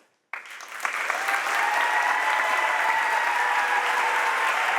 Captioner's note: audience applauds and cheers